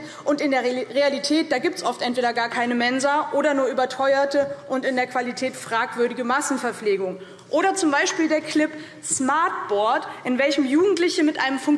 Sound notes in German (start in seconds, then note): none